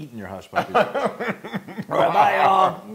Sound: laugh

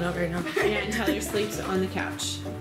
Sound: chuckles

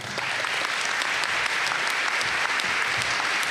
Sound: applause

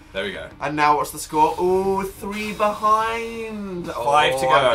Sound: exhales

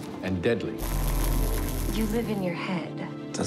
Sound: electricity arc

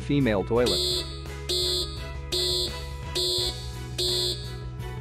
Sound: alarm

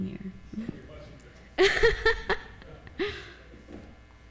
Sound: laughs

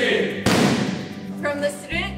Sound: hands pounding

